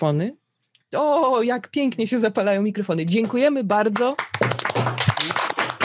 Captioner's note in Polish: oklaski